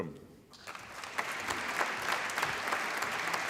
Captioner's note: applause